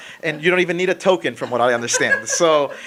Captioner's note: laughing